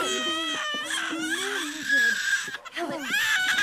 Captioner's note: crying